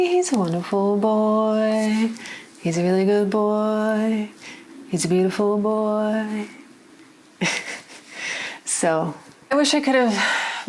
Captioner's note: laughs